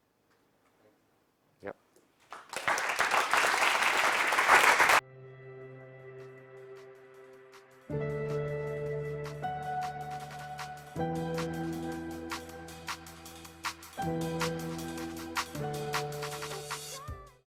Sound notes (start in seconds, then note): 2.2 applause